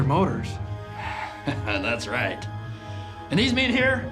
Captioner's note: chuckles